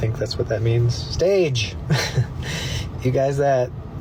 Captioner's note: scoffs